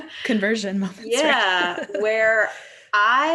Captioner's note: laughs